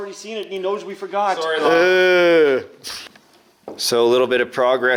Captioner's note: groans